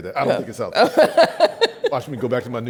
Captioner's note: laughs